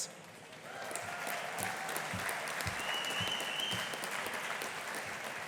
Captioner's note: audience applauding